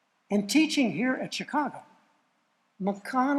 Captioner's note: none